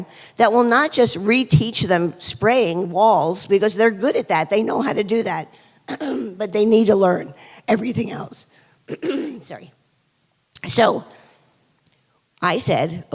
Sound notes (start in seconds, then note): 5.9 clears throat; 8.9 clears throat